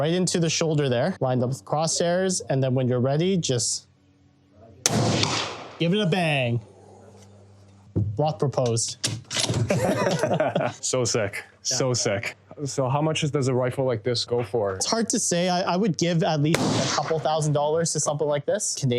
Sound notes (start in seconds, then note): 4.8 gun fires